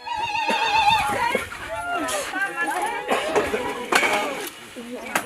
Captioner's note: chatter